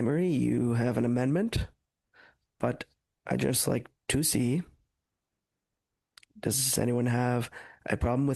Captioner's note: speaking French